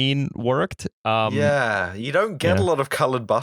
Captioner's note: ruefully